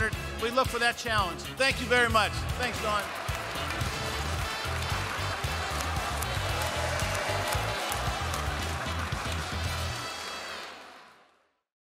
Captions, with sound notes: We look for that challenge. Thank you very much. Thanks, Dawn. [applause, music riff fades out]